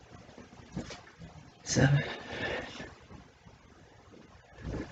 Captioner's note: exhales